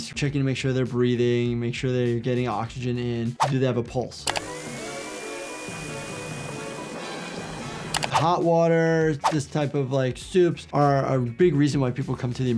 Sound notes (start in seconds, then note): 4.3 knife buzzing; 4.4 dramatic music